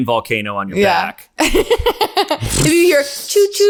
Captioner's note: laughter